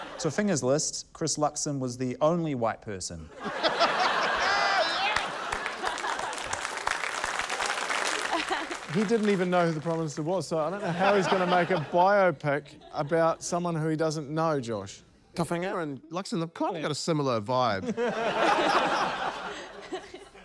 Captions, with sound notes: Tofiga's list ― Chris Luxon was the only white person. (LAUGHTER) - Yes! (APPLAUSE) - He didn't even know who the prime minister was, so I don't know how he's gonna make a biopic about someone who he doesn't know, Josh. - Tofiga and Luxon have kinda got a similar vibe. (LAUGHTER)